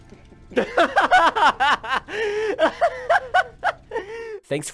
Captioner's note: bursts out laughing